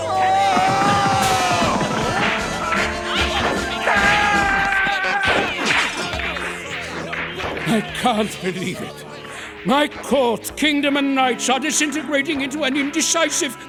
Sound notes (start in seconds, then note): 1.2 squabbling